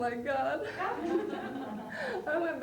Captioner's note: laughter